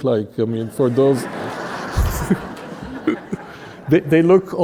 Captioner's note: audience laughing